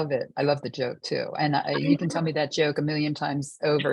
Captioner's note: laughing